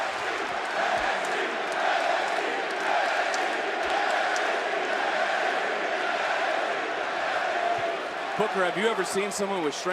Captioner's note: crowd chants "nxt"